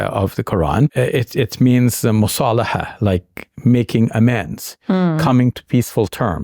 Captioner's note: speaking Arabic